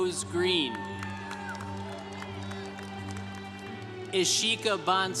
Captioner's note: congregation cheering